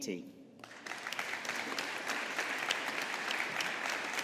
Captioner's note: audience applauding